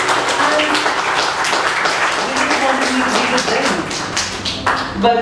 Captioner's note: well-deserved applause